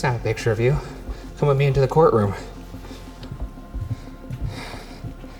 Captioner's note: exhales sharply